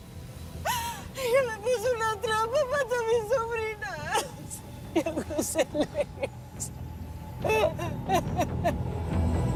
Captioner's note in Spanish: Sollozos